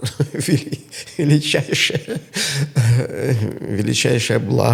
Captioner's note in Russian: смех